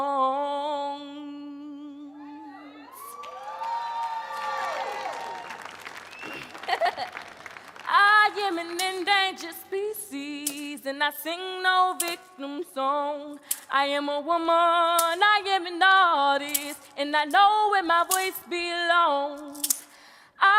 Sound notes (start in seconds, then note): 2.3 audience cheering; 6.2 chuckles